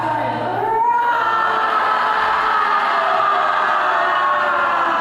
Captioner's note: loud roaring